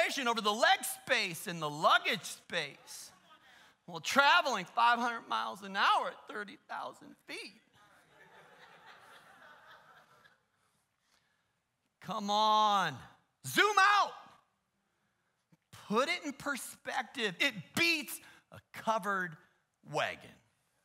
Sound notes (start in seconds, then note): 7.7 laughter